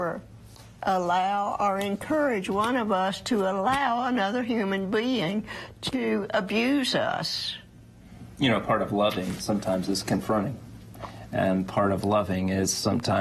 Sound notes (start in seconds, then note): none